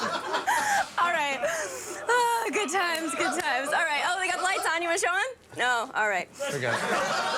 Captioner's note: laughter